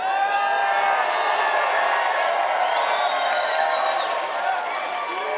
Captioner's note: cheering and applause